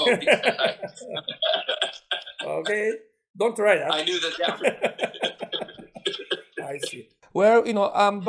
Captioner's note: laughing